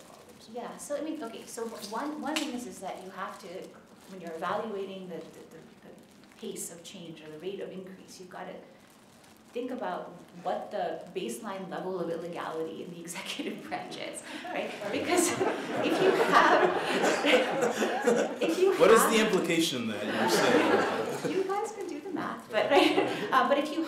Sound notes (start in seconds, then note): 17.7 laughter